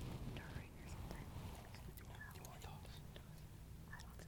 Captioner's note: group whispering